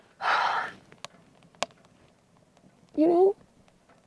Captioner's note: exhaling